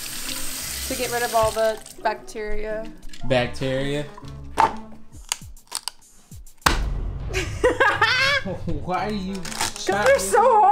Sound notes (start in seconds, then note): 5.6 celery crunching; 7.3 laughing